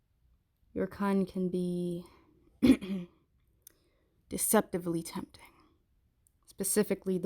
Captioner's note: clears throat